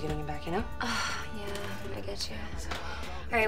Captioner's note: sighs